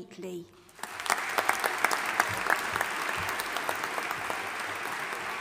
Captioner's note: audience applauding